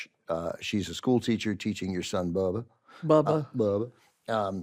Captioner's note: none